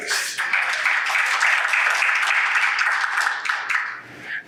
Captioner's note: audience applauds